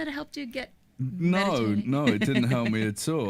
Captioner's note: chuckles